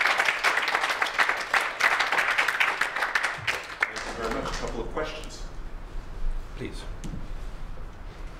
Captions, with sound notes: [APPLAUSE] Thank you very much, a couple of questions. Please.